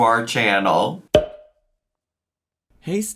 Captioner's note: graphic pops